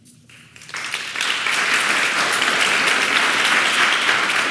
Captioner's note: audience clapping